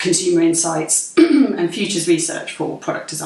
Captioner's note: clears throat